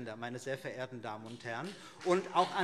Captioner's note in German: Beifall CDU und BÜNDNIS 90/DIE GRÜNEN